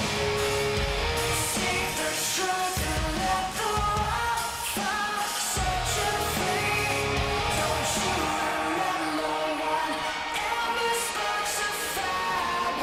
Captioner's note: crowd cheering